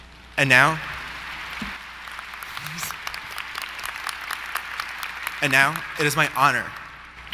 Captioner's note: applause